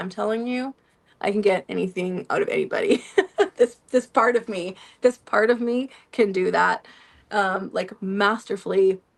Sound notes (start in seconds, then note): 2.9 laughter